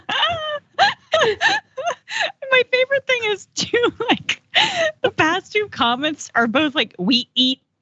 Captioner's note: laugh